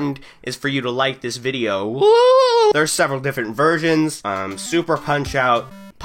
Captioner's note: wooowhowoowwohhoo